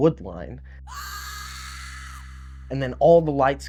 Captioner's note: woman screaming